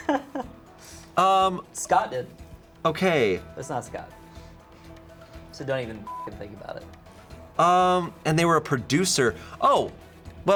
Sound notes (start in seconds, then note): 0.0 crew member laughing; 4.4 light suspenseful music; 6.0 beep